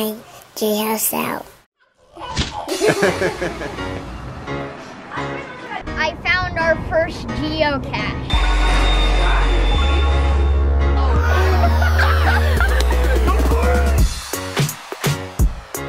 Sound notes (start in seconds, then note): 2.7 laughter; 9.1 upbeat music